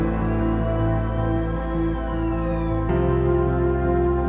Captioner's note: sirens wailing; uplifting music